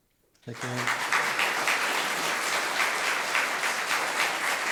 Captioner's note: audience clapping